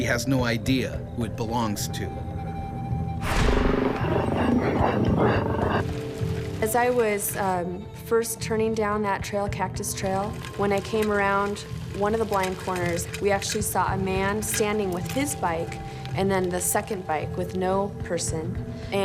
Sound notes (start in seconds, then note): 0.2 voiceover; 3.8 growling